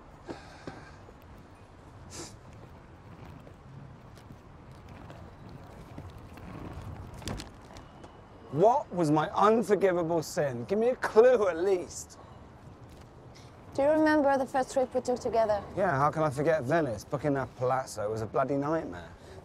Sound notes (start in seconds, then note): 0.2 sighing; 2.0 sniffing